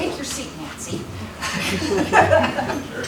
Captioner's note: laughter